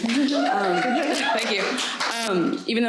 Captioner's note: audience cheering